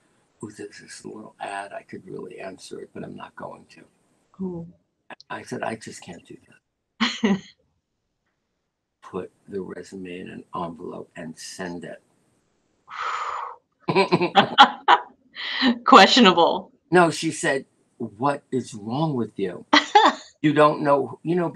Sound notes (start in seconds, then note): 7.8 laughter; 19.5 laughter